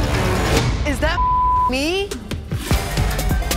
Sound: beep

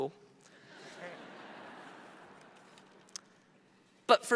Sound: audience laughs

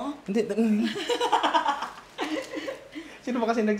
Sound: laughs

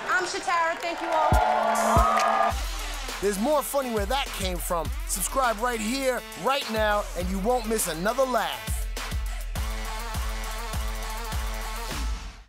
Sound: cheers and applause

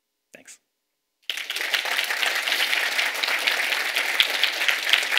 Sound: audience applauding

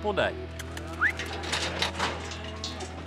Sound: whistles; gate clanking

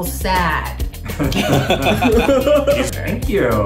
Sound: laughing

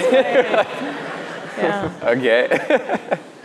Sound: laughs

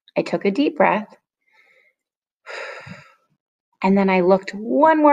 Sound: breathing

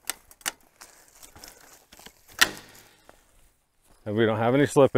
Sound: chain clicking

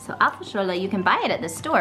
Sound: speaking in foreign language

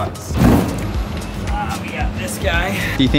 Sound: box thudding

